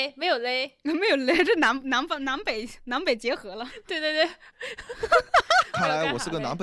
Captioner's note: dialect